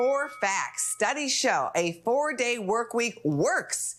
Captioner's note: bell rings